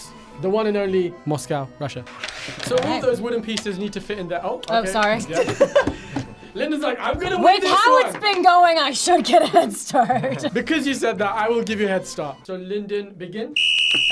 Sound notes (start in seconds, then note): 5.3 laughs; 9.0 laughs